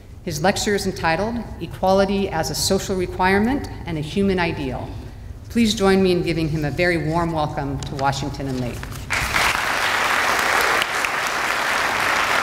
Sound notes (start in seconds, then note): 9.1 applause